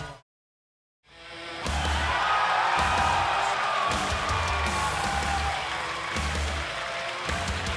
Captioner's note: rock music; crowd cheering